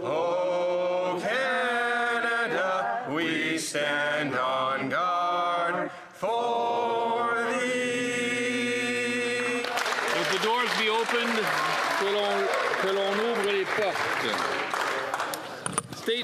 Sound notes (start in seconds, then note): 14.4 applause